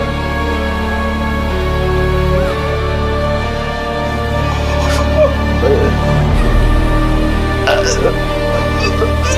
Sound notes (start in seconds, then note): 4.4 choking and gagging